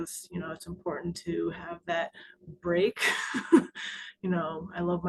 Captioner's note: chuckles